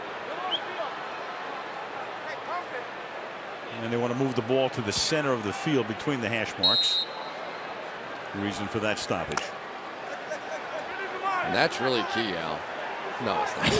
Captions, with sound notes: And they want to move the ball to the center of the field between the hash marks. [whistle] Reason for that stoppage. And that's really key, Al.